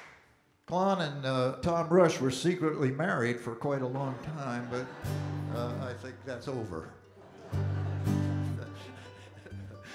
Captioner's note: audience Laughing